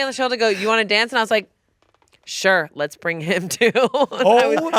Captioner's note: laughs